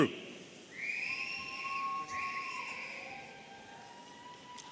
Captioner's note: audience cheering